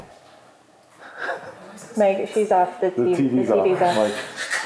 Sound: laughter; laughing

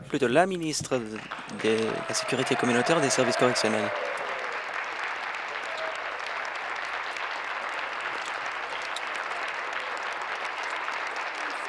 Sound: some Applause

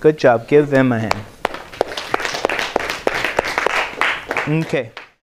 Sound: clapping

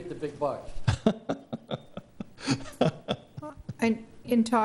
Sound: laughing

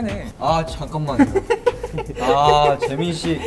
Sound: laughing

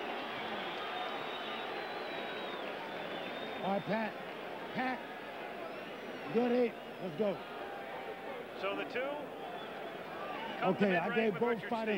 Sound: cheering and applause

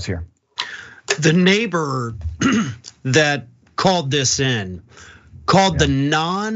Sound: cough

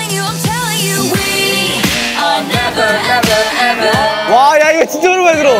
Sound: buzzer rings

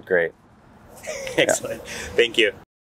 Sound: laughs

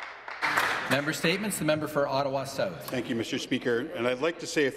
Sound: some Applause

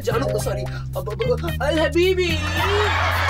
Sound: in arabic

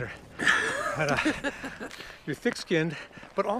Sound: Jeff laughing

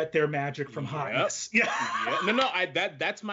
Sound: laughs

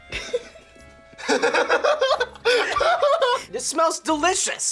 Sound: both laugh

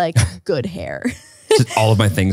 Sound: laughs

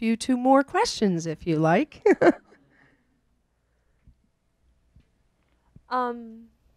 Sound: chuckles

